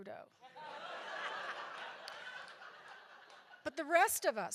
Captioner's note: audience laughs